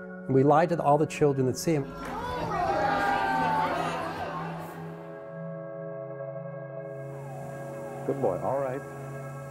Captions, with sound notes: and we lie to all the children that see him [crowd gasps] Good boy. All right